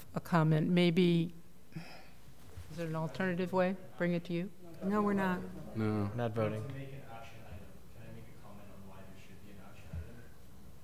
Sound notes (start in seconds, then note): 6.5 speaking off mic